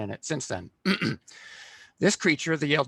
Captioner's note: throat clearing